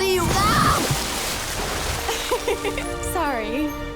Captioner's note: laughing